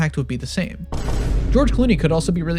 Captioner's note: gunshot